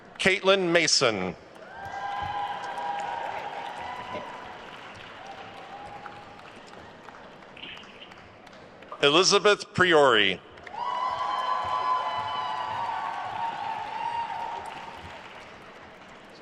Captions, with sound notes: Caitlin Mason. (attendees cheering and applauding) Elizabeth Priore. (attendees cheering and applauding)